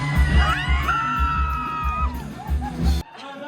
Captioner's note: crowd screams